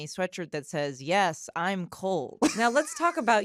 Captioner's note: laughs